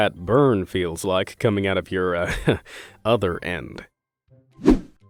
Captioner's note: chuckle